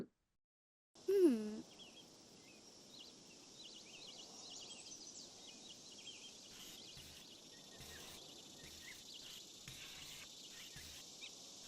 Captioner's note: nature sounds